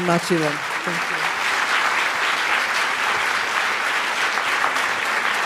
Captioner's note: audience applause